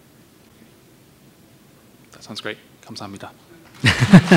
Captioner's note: audience applause